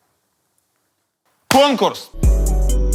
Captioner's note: claps hands; title theme